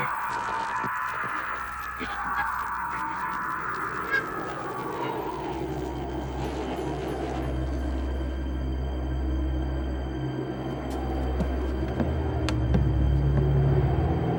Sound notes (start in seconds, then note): 0.0 screaming; 4.8 wind howling; 9.1 eerie music